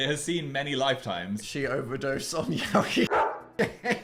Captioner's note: dog barks